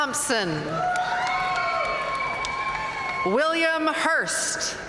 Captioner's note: audience cheering and applauding